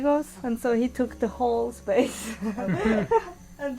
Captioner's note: laughter